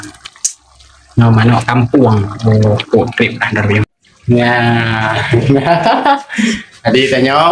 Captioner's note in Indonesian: tertawa